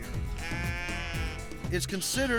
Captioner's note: sheep bleating